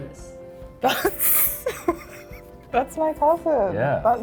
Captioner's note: chuckles